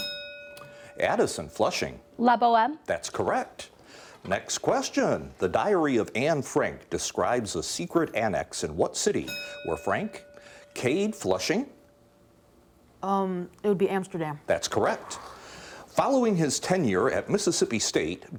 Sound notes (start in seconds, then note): 0.0 bell dinging; 9.2 bell dinging